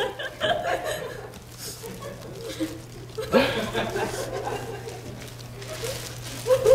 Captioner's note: laughter